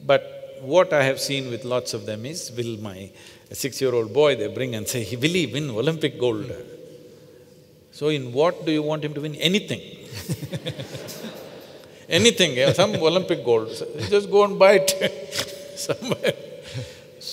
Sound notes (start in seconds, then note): 10.1 laughter; 15.8 laughs